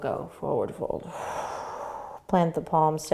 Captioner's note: exhaling